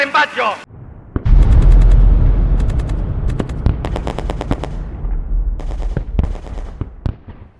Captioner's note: machine gun shot, explosions